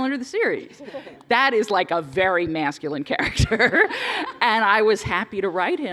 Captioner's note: laughing